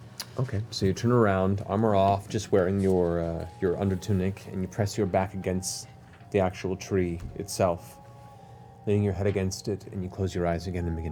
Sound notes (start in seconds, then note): none